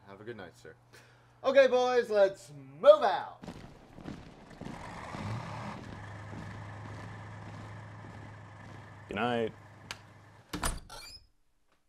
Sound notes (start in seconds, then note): 3.5 footsteps marching out; 4.7 engine starting